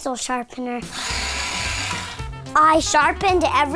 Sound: pencil sharpener buzzes

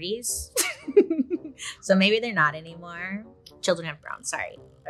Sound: laughs

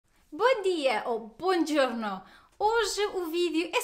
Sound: in Italian

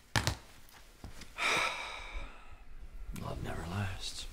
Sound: sighing

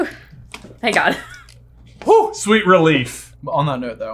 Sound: sighs

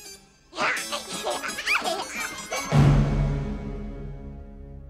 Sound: Pubert laughs

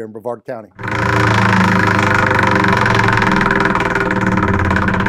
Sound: wheel clattering

